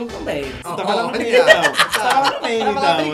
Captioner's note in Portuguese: Blogueirinha ri